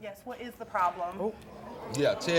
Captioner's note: crowd murmurs